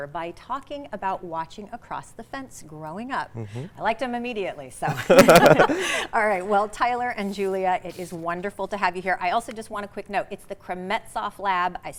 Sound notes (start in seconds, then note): 4.8 laughter